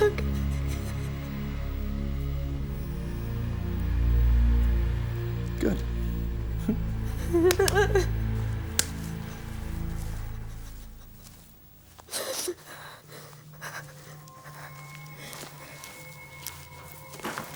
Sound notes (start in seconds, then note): 2.9 suspenseful music; 7.0 Graham chuckles; 7.4 hand tapping; 7.8 Jodie whimpering; 12.3 footsteps tapping